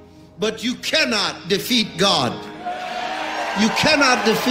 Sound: crowd cheering

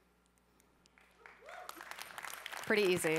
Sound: cheering

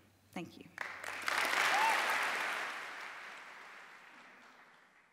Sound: applause

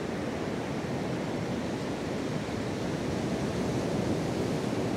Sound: waves crashing along the shoreline

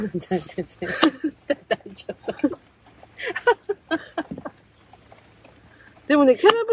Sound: laughs

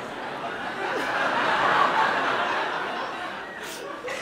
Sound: audience laughs

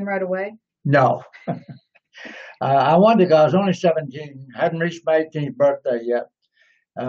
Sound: laughs

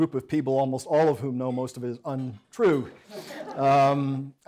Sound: audience laughs

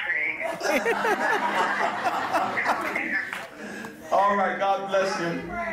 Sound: congregation laughing

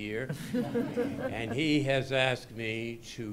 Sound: laughter

